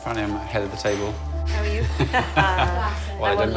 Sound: laughs

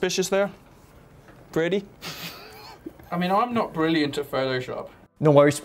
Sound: tries but fails to keep in laugh

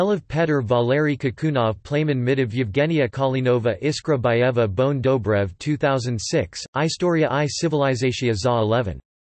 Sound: in Bulgarian

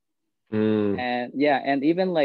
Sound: vocalizes in acknowledgement

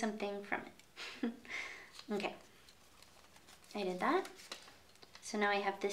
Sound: chuckles

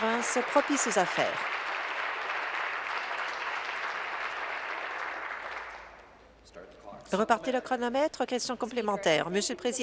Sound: applause

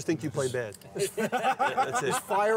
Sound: laughter

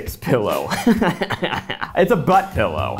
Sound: laughing

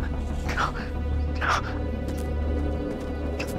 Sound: breathing heavily

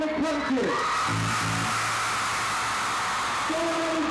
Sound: crowd cheering

